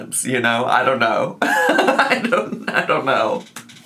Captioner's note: laughs